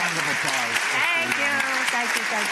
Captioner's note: applause